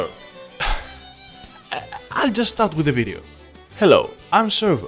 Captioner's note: sigh